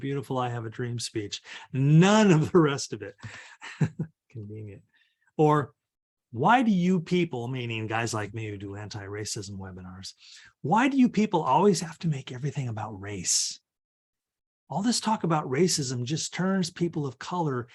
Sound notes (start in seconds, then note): 3.2 chuckles